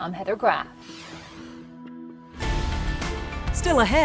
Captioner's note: graphics swoosh